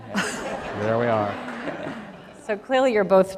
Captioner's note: laughter